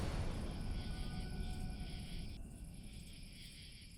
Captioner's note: insects chirping